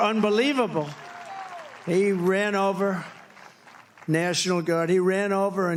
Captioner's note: applause